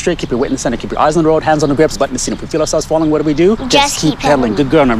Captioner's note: rapidly giving instructions